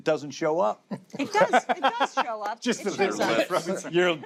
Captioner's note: laughter